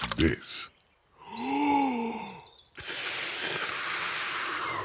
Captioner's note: takes big breath and blows